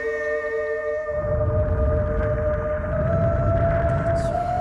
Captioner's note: air whooshing